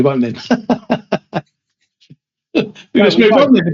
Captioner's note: laughter